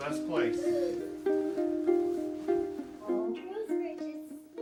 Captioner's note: sobbing; chattering